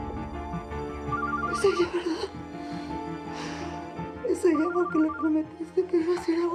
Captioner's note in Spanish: suena el celular